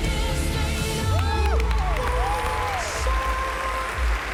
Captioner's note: cheering and applause